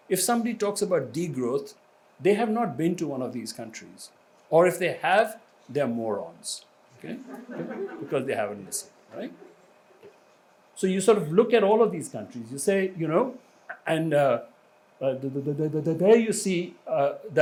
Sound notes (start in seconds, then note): 7.1 audience laughs